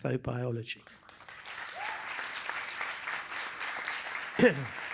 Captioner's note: applause